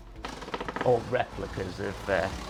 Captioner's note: creaking